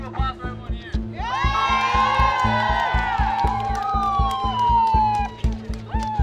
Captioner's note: cheering